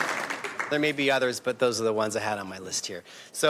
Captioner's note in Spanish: aplausos